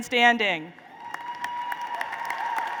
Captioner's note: applause